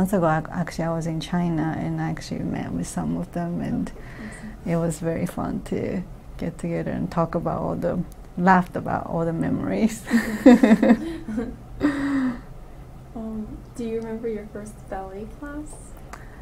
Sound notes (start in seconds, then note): 10.1 all: laughs